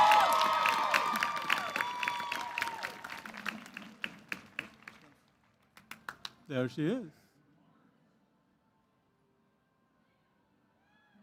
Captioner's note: cheers